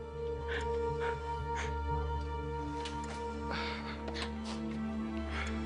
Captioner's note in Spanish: Sollozos